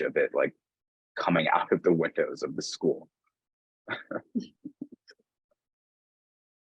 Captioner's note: both chuckling